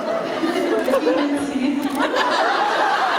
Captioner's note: laughing